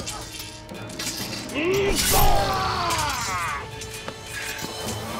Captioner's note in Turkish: Dövüş sesleri